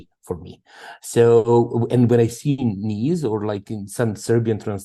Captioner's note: speaking Serbian